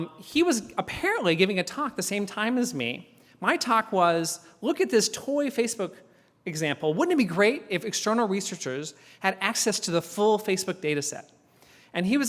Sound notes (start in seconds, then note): none